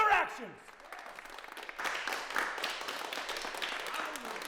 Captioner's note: crowd clapping